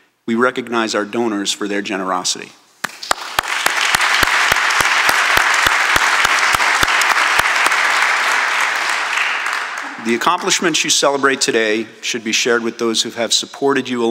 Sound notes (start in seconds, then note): 2.8 applause